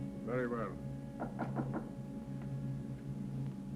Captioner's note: knocking on the door